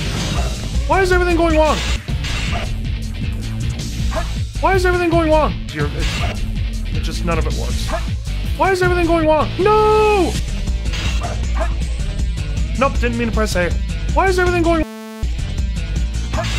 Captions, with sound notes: Why is everything going wrong? Why is everything going wrong? It's just none of it works. Why is everything going wrong? No! Nope, didn't mean to press A. Why is everything going- *BUZZING*